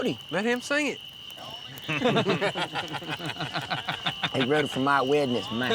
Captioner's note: laughter